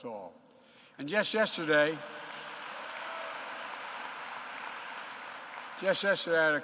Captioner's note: applause